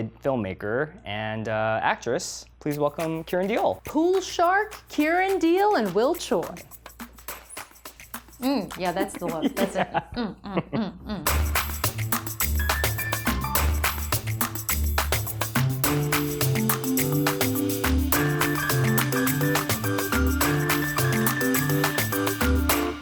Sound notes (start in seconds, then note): 9.0 laughs